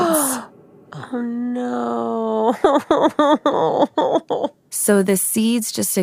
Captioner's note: gasps